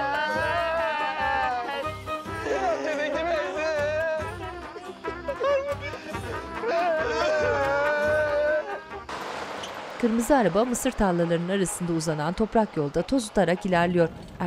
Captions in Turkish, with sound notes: (Ağlama sesleri) Araba gitti! (Ağlama sesleri)